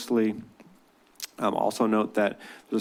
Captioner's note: clicks tongue